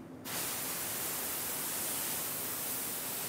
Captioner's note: hissing